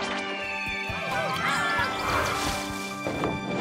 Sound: Candy people cheering

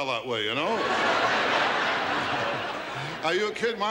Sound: audience laughs

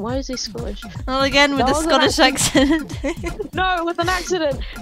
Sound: laughs

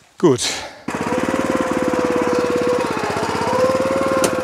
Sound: engine on

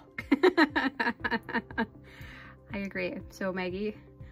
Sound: laughs

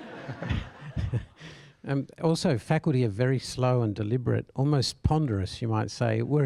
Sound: laugh

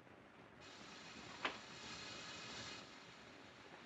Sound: machine hissing

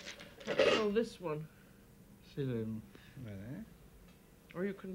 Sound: speaking French

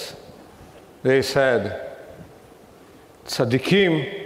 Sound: speaking in foreign language

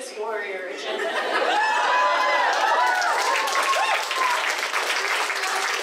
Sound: cheering; applause

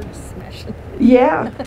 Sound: laughs

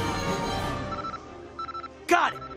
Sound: computer beeping

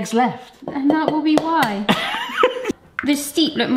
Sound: egg bangs

